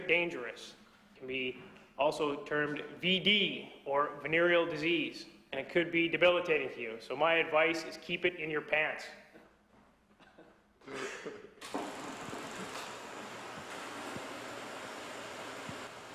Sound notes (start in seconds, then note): 10.8 chuckles; 11.1 clicking reel